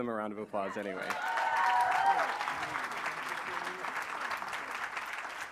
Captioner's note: applause